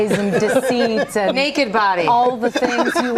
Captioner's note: laughter